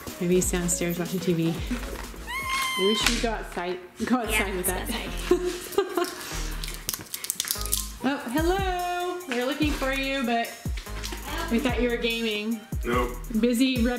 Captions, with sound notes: Maybe he's downstairs watching TV. (squeals) We should go outside. - Yeah. - Go outside with that. (plastic crinkles) Oh, hello! We were looking for you, but we thought you were gaming. - Nope.